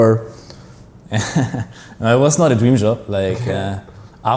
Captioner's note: laughs